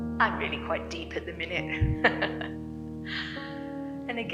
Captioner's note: laughing